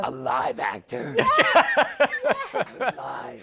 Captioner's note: laughs